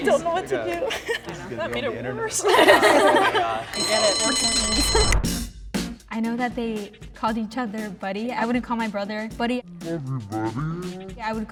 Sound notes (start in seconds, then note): 2.5 crowd laughs; 3.7 bell rings